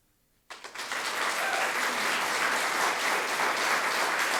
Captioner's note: audience clapping